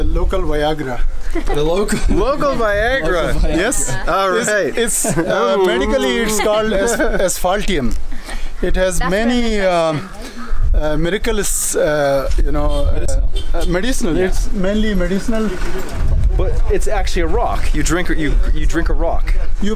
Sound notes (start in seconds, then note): 1.2 laughing